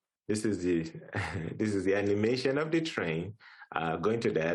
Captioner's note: chuckles